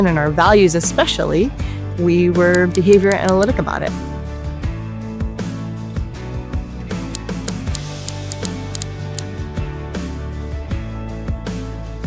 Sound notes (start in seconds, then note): 4.7 upbeat music continues; 7.1 graphic clicking